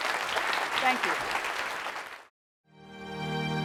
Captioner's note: applause